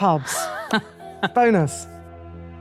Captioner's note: laughs